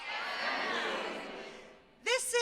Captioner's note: audience chattering